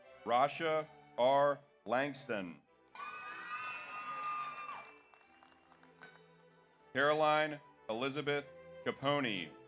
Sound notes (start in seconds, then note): 2.9 audience cheers; 2.9 audience applauds